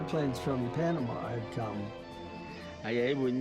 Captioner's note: plane engine roaring; speaking in foreign language